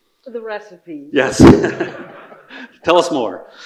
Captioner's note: everyone laughing